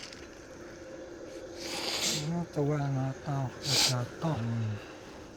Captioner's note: inhales sharply